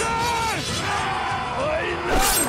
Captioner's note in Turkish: Bağırma sesleri; Çarpışma sesleri